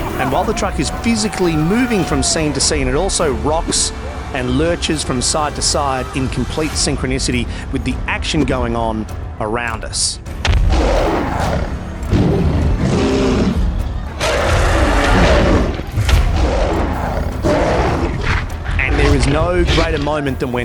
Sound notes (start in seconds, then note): 14.3 king kong - roars